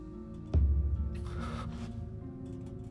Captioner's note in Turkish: Derin nefes alıyor